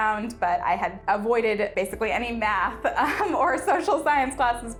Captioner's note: giggling